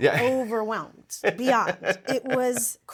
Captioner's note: laughs